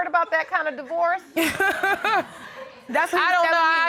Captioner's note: laughing